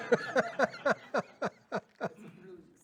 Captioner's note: laughter